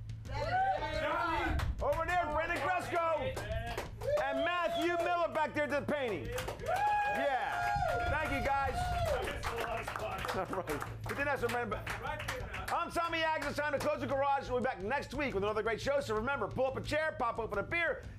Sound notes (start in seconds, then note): 13.4 audience cheers